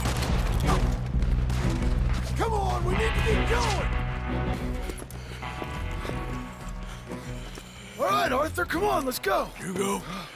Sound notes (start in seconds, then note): 4.6 Arthur stops, panting